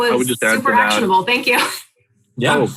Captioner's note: laughs